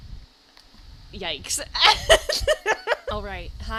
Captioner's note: laughs